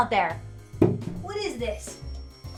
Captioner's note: snowballs thump